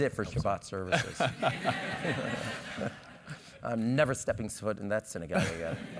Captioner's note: laugh